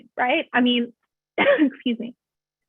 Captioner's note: coughs